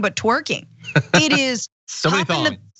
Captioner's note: laugh